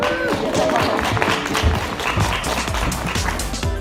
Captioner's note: applause